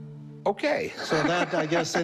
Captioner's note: laughs